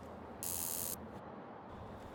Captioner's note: buzzing sound